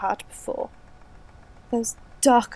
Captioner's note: fx: static grows steadily louder